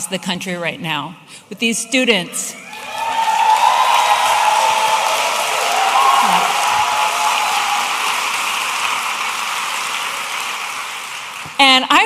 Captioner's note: audience applauding